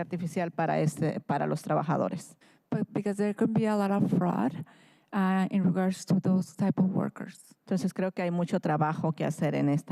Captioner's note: speaking in spanish